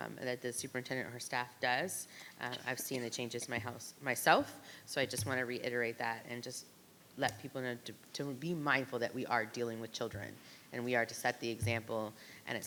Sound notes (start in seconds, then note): none